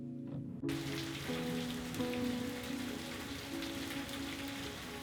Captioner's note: rain pattering